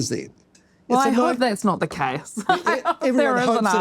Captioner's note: laughs